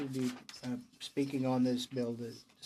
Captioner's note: speaking in french